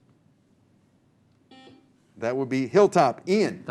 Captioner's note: buzzer